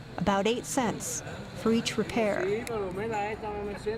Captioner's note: speaking spanish